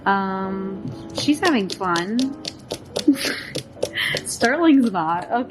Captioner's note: snickers